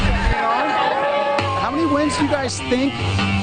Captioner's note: dramatic music; crowd cheers